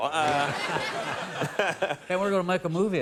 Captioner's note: laughing